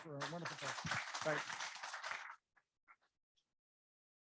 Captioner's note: audience clapping